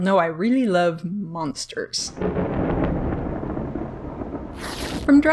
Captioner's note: thunder rumbles